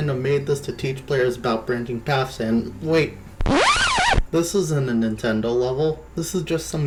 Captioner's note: record scratch